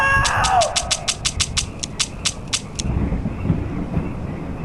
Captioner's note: gun clicking